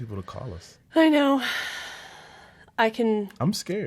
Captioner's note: sighs